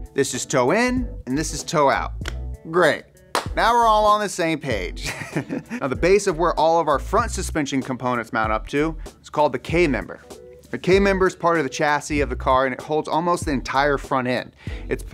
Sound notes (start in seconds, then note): 5.1 laughs